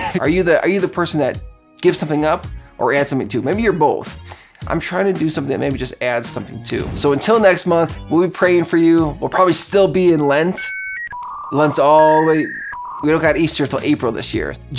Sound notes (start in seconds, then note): 10.6 fax machine sounding